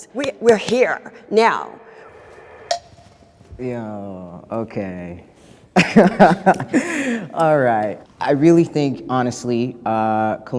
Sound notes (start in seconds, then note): 2.0 beeps; 5.7 laughs